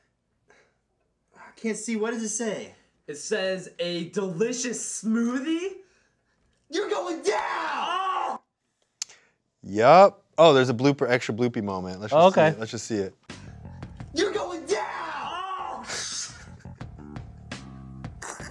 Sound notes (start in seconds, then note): 15.4 groans